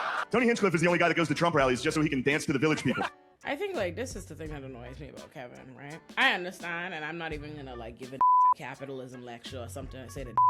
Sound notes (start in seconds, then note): 8.2 beep